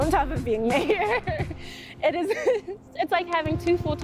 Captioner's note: chuckles